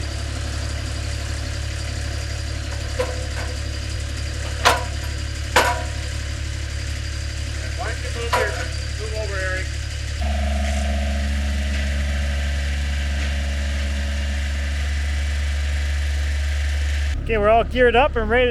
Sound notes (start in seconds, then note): 10.7 machine thrumming